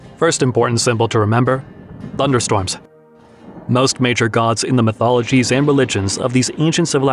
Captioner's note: thunderstorms